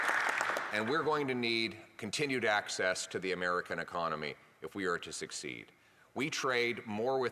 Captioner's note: applause